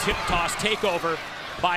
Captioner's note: crowd cheering